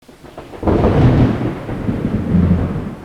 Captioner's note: thunder clap